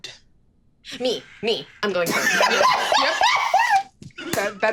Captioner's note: laughing